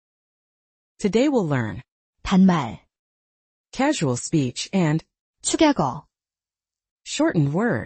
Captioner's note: casual speech